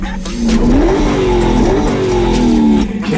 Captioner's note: engine revs